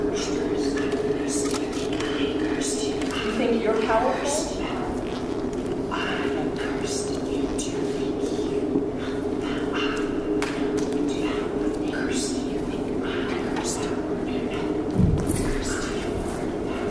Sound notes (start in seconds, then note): 6.2 disembodied Voice; 13.2 disembodied voice whispering